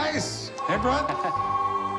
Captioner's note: phone ringing